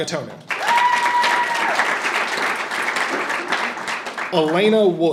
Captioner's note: audience applauding and cheering